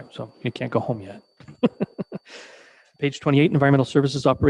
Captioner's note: chuckling